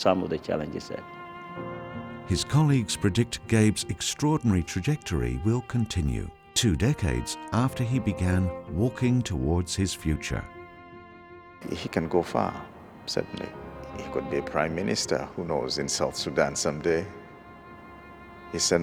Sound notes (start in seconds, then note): 2.6 voiceover